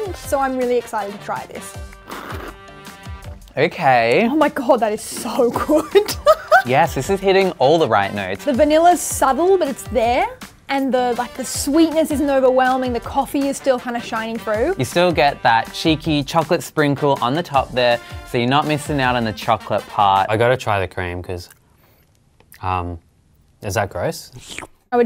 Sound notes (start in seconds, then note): 1.9 slurps; 5.8 laughs; 24.3 slurps